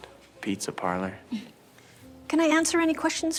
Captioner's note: Rachel chuckles